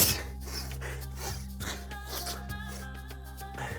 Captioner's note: sneezes; sniffing